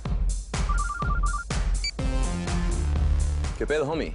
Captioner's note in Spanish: Suena un celular